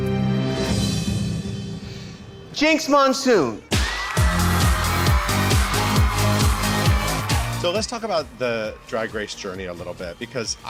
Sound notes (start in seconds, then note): 3.1 upbeat music; 3.7 crowd cheering